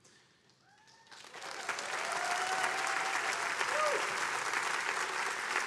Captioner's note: attendees cheering and applauding